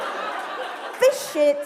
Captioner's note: laughter